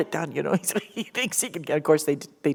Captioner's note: chuckle